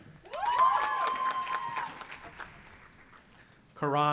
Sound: audience applauding and cheering

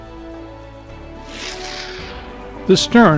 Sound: woosh

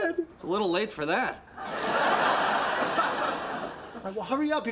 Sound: audience laughter

